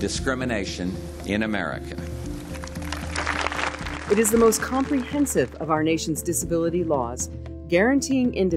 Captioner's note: crowd applauds